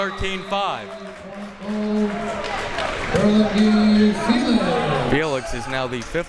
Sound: muffled speaking over speaker system

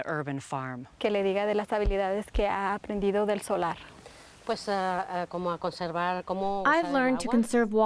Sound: translator repeats question in Spanish

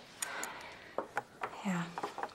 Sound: Caitlin sighs

